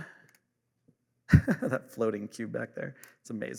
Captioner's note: laughs